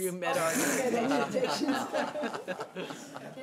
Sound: laughs

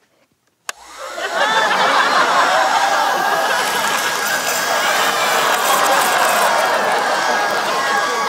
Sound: vacuum runs

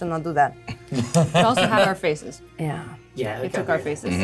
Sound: both laugh

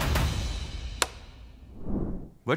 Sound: rumbling

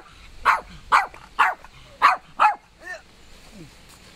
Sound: dog barking

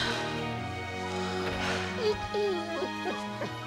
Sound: whimpering

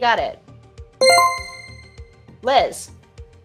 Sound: chime rings

